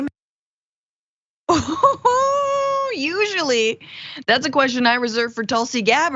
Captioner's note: laugh